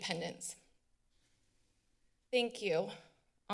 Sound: silence

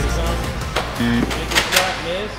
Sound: buzzer

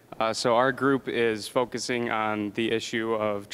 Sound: none

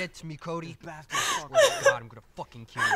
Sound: sobbing

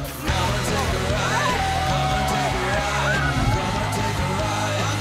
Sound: crowd cheering

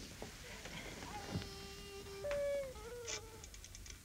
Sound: baby crying

